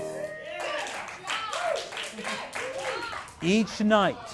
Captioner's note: singing; applause